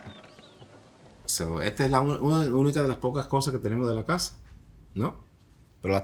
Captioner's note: chicken clucking; speaking in foreign language